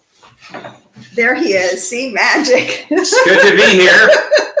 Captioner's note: laughing